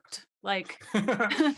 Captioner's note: laughing